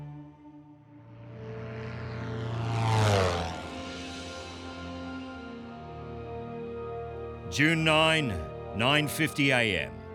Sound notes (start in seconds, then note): 1.0 plane propeller; 4.0 tranquil music